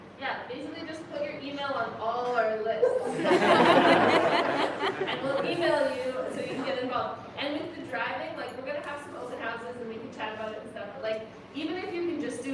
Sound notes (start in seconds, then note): 2.8 laughter